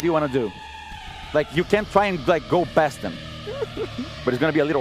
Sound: laughs

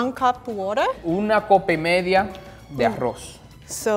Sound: speaking in foreign language

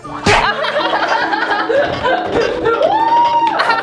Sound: laughing

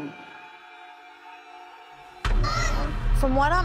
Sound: screams

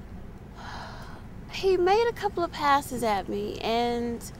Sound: sighs

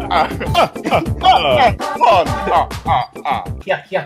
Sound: laughing Evil; laughs Evil

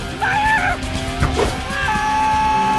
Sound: screaming

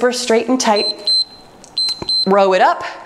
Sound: timer beeps

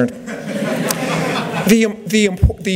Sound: laughter

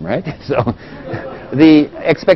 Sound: laugh

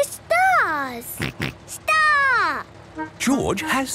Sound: snort

